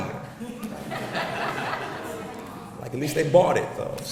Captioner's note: audience laughs